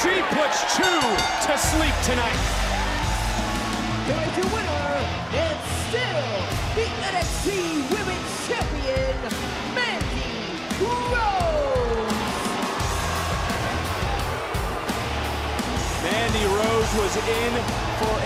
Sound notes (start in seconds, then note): 3.3 bell rings